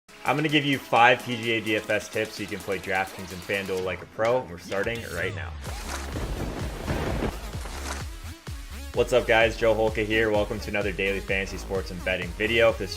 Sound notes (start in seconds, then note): 5.9 upbeat music; 6.0 lightning strikes